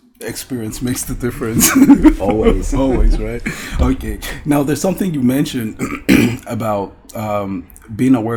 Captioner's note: laughs